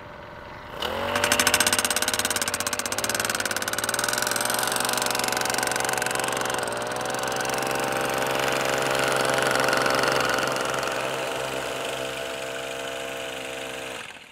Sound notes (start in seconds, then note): 1.3 driver hammers post into ground